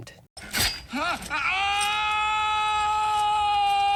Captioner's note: screaming